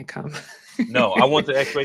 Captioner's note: laughs